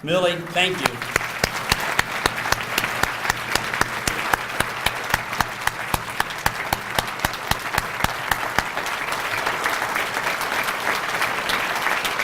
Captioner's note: applause